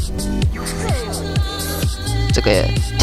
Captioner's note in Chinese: 噓聲